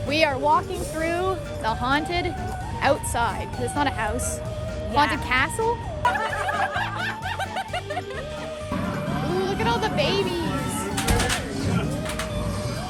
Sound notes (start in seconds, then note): 6.0 laughter